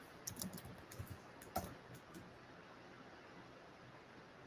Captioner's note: keyboard clacking